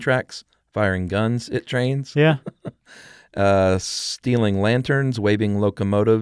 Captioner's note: laughs